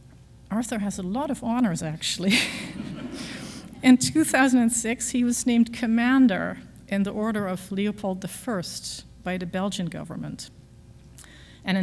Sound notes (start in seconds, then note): 2.3 audience laughs